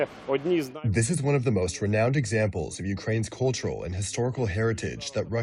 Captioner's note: through translator